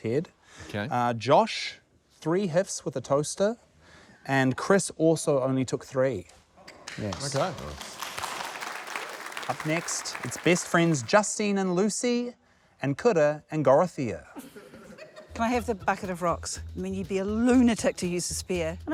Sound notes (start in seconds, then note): 6.8 applause; 14.3 laughter